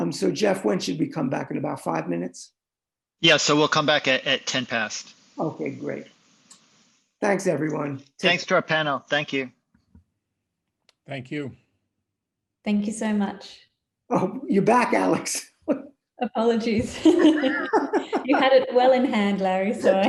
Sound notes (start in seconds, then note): 16.9 laughing